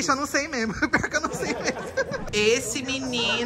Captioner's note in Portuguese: risos